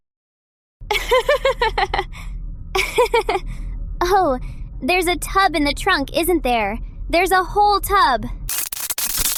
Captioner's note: laughs